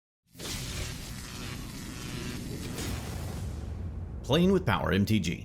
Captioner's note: electric crackling